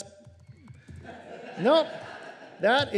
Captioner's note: laughter